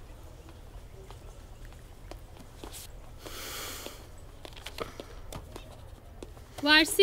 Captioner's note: Footsteps